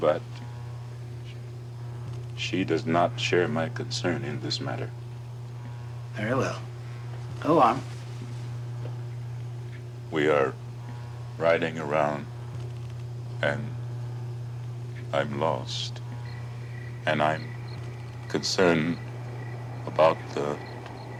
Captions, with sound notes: she does not share my concern in this matter. - Very well. Go on. - We are riding around, and I'm lost. [insects chirping] And I'm concerned about the tollgate.